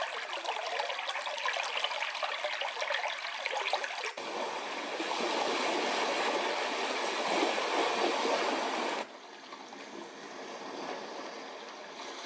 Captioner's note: white noise machine sounds